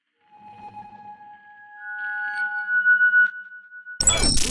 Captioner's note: high pitch ringing outro; static crackles